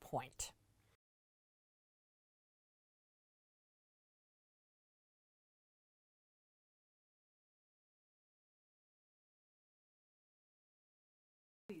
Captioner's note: no Sound Present